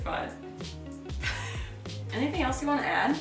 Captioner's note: laughing